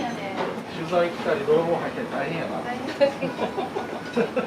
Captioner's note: laughter